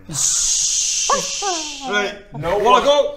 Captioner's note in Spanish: Guau guau